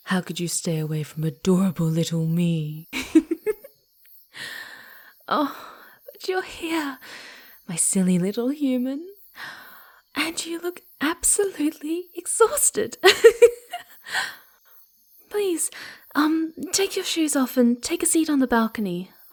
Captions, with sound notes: How could you stay away from adorable little me? (Giggles) Oh! But you're here! My silly little human! And you look absolutely exhausted! (Laughs) Please! Um, take your shoes off and take a seat on the balcony.